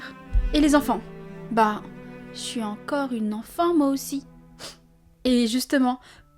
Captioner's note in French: snif